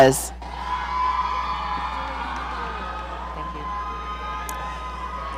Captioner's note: audience cheering